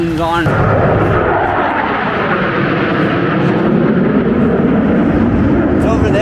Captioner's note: jets flying